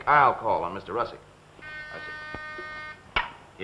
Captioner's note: phone buzzes